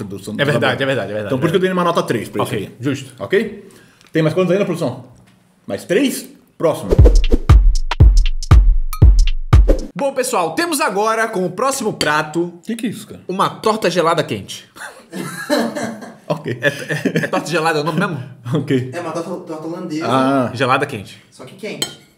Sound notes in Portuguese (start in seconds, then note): 14.8 risos